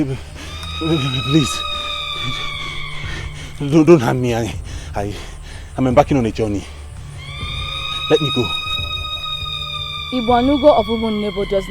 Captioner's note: screaming